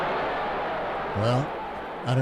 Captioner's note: crowd cheering